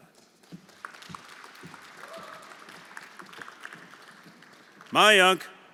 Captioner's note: everyone applauding